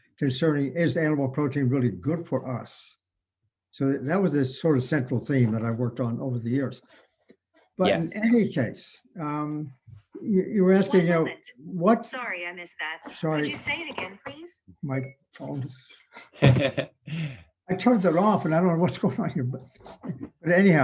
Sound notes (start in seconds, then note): 15.1 beeps; 16.1 chuckles